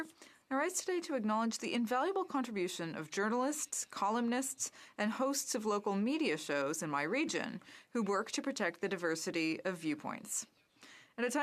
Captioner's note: speaking French